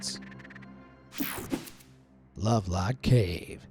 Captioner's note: transition slashes